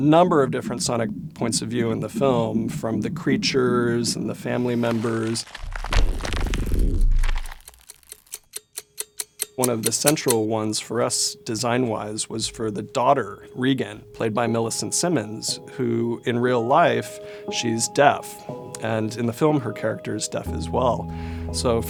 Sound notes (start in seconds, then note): 5.5 monster’s perspective of clock ticking